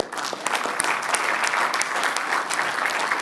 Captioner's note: applause